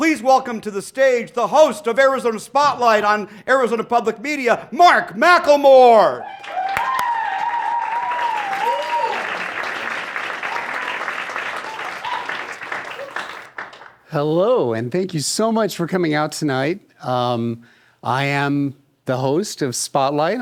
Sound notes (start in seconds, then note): 7.8 applause